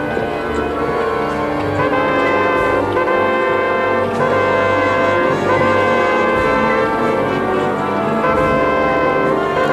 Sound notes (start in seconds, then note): 1.7 horn trumpeting; 1.7 tense solemn music